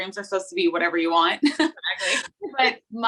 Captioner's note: laughing